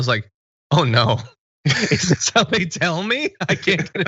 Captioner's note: laugh